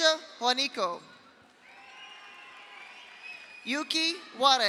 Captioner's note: audience cheers; audience applauds